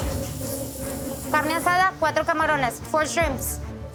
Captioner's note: dark instrumental music; speaking Spanish